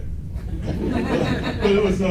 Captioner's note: laughs